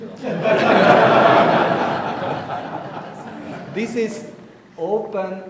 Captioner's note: audience laughing